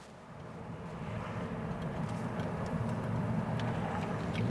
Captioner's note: car running